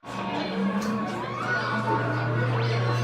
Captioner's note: scream